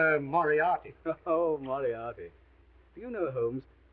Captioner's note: chuckles